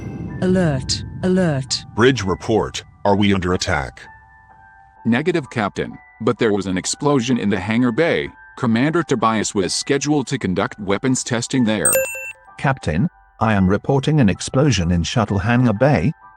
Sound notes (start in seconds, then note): 11.8 com chime